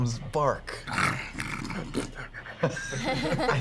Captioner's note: panting